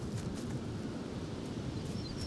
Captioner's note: wind blowing